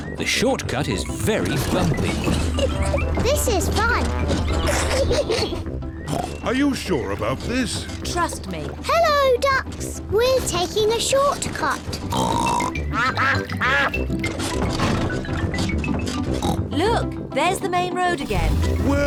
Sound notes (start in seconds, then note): 4.4 laughs; 6.0 snorts; 12.0 snorts; 12.1 ducks quack